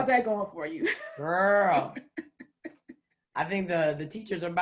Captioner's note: laughs